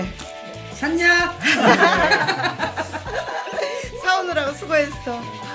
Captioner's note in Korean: 웃음